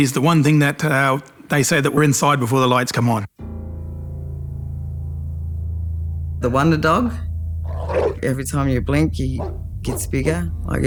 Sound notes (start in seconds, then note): 3.4 ominous music; 7.7 dog barks